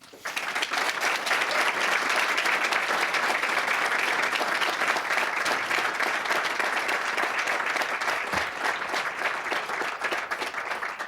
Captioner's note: applause